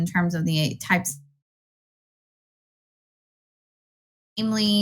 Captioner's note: no audio present